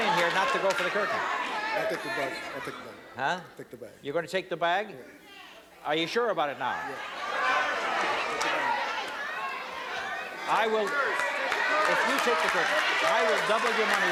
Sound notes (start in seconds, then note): 7.2 yelling; 10.9 cheering and applause